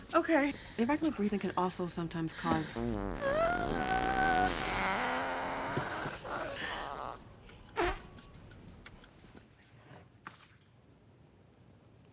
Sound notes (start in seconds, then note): 2.6 Mavis farts